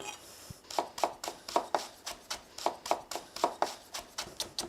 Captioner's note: knife thudding